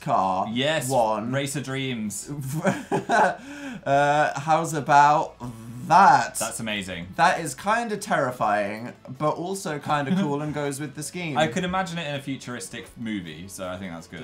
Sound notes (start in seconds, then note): 2.4 laughs